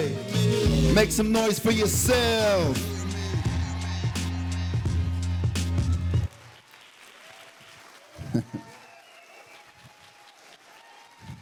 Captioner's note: applause